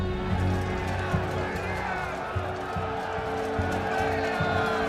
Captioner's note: all shouting and cheering